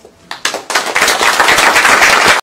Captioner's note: applause